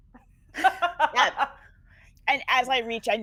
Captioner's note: laughing